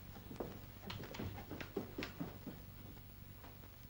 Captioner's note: footsteps down stairs